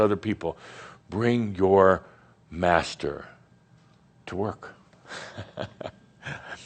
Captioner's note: Adamus chuckles